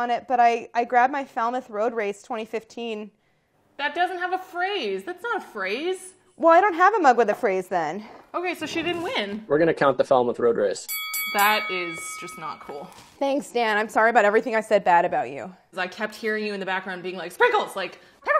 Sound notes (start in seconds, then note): 10.8 bell rings